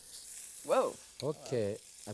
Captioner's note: fat sizzling